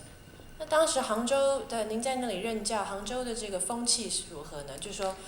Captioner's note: Mandarin